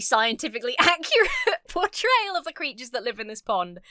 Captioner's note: laughs